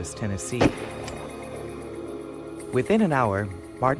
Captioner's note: gun fires